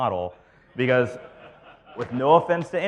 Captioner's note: audience laughs